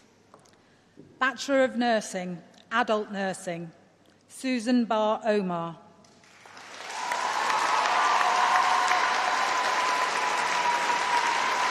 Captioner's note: applause